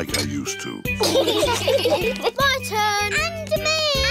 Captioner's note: laughter